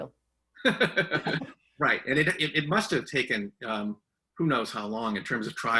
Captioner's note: laughs